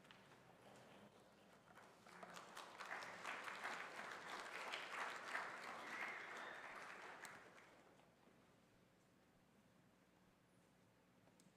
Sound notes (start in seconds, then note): 1.8 congregation applauds